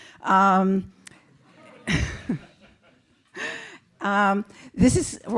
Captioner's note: laugh